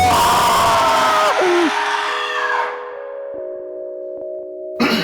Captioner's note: man frantic screaming; deep screaming